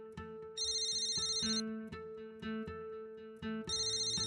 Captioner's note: phone rings